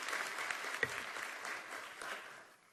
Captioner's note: applause